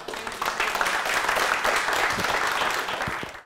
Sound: applause

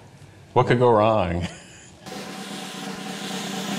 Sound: laugh; drums play

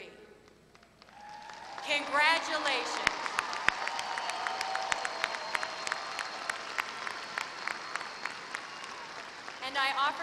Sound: applause

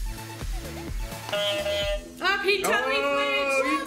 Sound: horn honks loudly

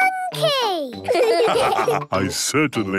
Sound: laughs; all laugh

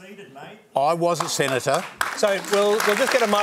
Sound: applause

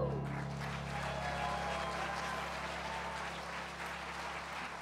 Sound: applause

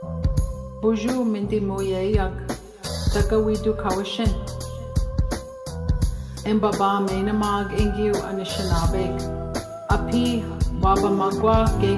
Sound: foreign Language

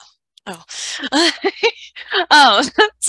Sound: chuckles

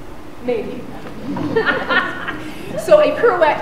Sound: laughing

